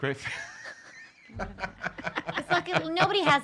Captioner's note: laughing